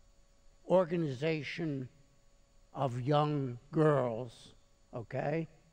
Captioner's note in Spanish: habla alemán